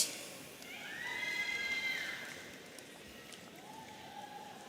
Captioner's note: audience cheering